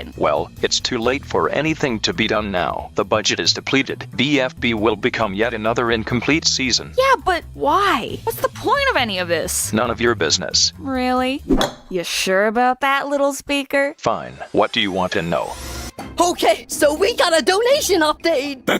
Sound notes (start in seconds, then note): 11.5 woosh